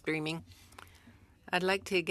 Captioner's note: speaking french